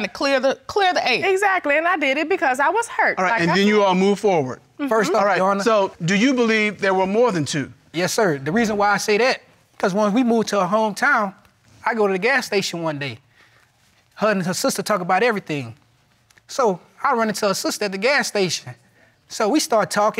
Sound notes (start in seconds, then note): none